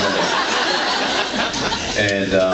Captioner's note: laughs